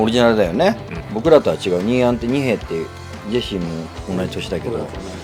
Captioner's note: speaking in foreign language